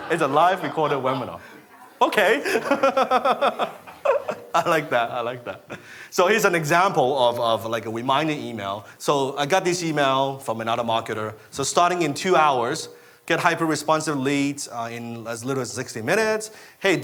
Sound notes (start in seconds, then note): 2.1 laughing